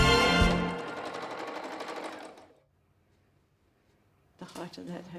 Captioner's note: sewing machine whirring